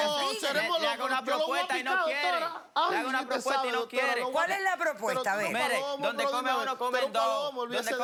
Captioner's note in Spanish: Hablan al unísono